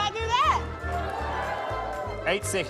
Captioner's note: whooping